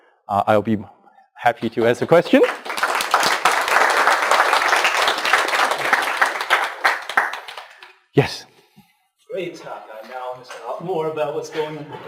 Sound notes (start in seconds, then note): 1.5 clapping